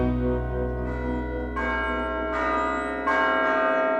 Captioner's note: upbeat music; church bells